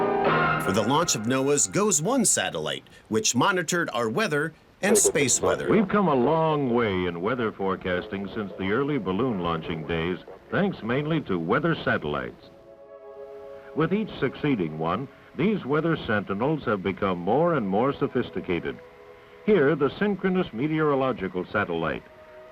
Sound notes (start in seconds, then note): 4.8 old-timey radio static